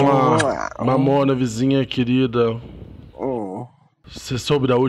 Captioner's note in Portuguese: grunhidos